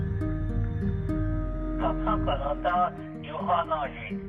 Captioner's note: speaking Lakota